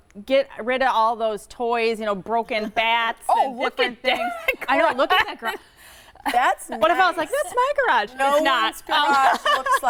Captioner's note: laughing